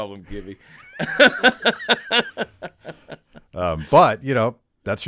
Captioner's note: Chad laughing